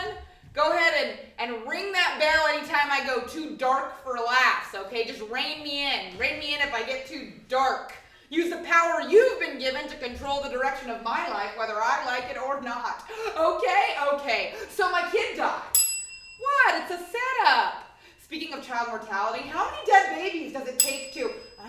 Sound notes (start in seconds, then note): 15.7 bell; 20.7 bell